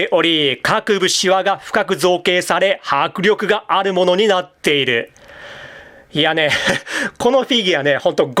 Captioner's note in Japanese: 笑い